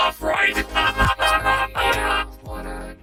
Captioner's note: laughing heartily